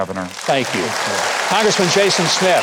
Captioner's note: audience claps